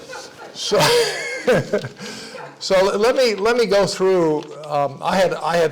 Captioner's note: laugh